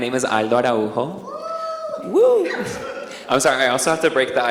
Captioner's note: audience member cheers